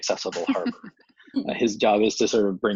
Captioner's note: laughs